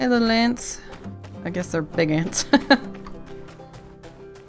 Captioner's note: laughs